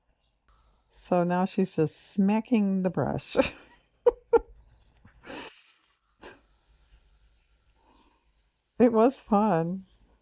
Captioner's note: laughs